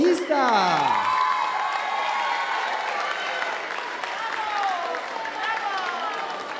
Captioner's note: audience applauding and cheering